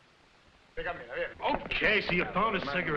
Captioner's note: officers conversing in foreign language